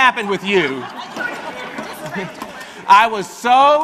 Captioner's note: audience laughing